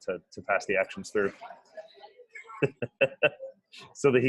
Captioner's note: light laughter